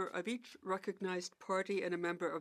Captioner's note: speaking French